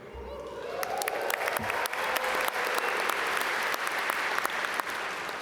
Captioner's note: audience cheer and applaud